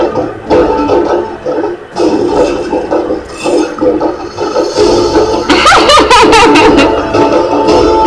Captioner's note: laughing